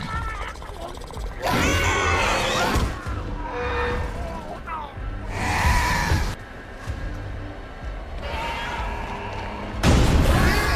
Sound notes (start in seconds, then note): 0.2 Scorpius Rex growls; 3.2 pilot screams in agony